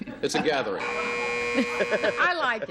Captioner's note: buzzer